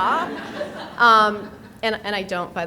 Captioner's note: people laughing